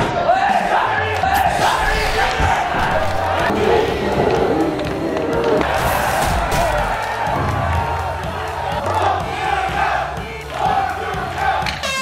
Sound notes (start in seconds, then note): 3.4 stumbling